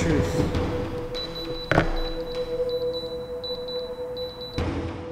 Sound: drone beeps

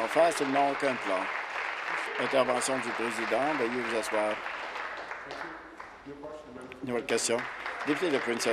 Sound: applause

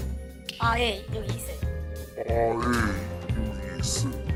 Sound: voiceover

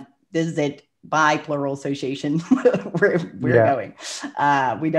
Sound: laughs

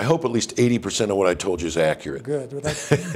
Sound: laughs

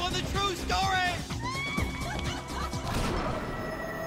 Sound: creepy female laughter

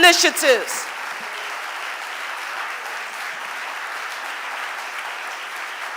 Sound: audience applauding

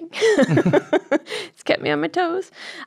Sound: laughter

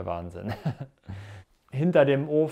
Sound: he laughs

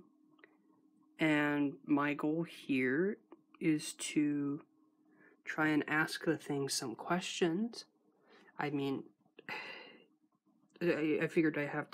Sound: she sighs

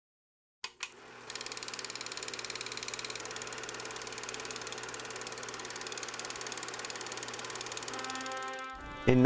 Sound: sound of movie projector

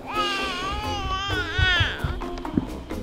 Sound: baby babbles; light hearted music

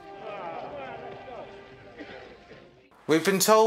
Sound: groans from the men

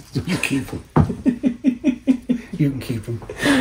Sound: laughing

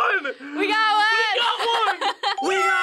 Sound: laughs

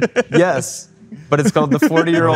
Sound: laughing

